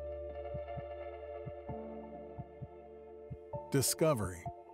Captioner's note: tranquil music; heart beating